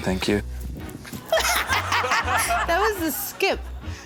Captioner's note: laughs